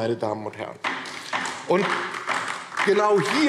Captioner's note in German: Beifall DIE LINKE